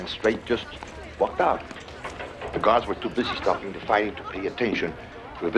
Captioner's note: none